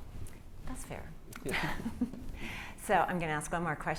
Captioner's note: laugh